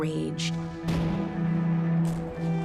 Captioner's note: cannons firing